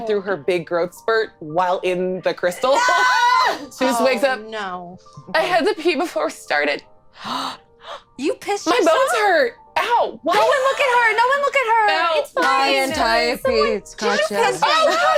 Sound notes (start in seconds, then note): 7.3 gasps